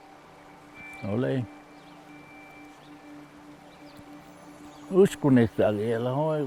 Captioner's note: man speaking in foreign language